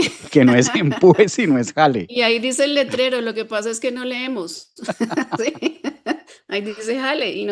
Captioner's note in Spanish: risas